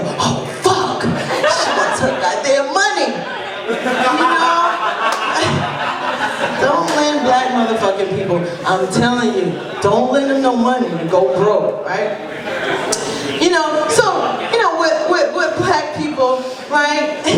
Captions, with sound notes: Oh fuck! She wants her goddamn money!" (laughter) You know. Don't lend black motherfuckin' people. I'm tellin' you. Don't lend them no money, you'll go broke, right. You know, so, you know with black people right.